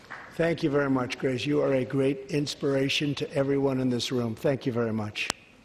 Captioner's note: applause